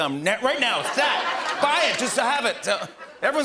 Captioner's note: laughter